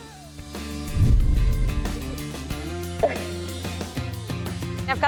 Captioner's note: fire roaring